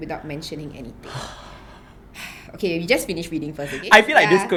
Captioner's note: sighs